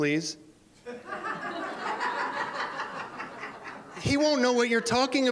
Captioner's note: laughter